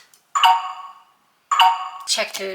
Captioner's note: computer chirps